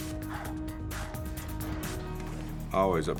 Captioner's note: breathing heavily